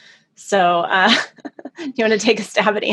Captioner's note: laughs